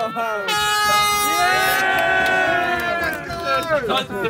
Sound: Sidemen cheer; air horn blares; Sidemen chatter and laugh

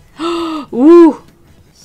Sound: gasps

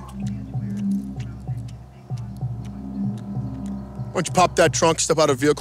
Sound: loud chewing

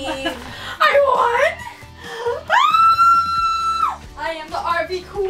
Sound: screams

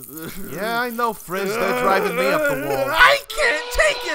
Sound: Frisbee grumbles and struggles

